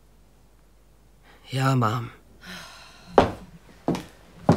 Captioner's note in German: Seufzen